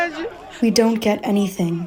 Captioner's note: through translator